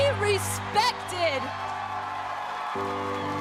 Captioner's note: cheers and applause